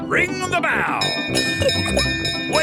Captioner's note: bell chimes